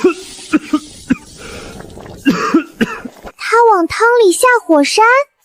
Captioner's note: cough cough